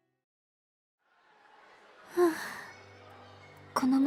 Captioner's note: sigh